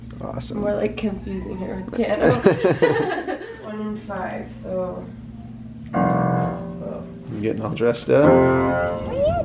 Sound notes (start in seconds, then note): 2.0 laughing; 5.8 playing piano